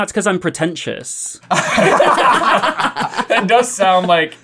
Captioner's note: laughter